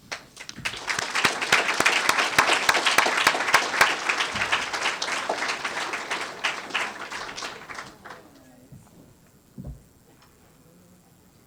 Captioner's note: applause